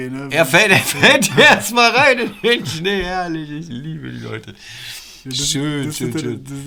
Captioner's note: laughter